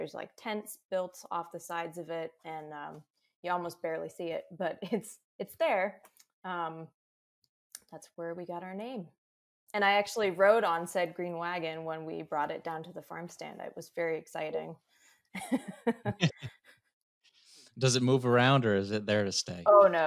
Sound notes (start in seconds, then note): 15.3 laughs